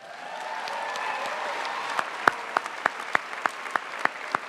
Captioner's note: crowd applauds